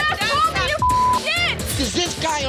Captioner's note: beep